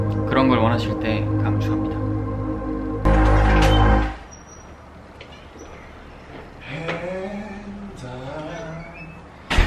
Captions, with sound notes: When you want that feeling I recommend it strongly (Creak)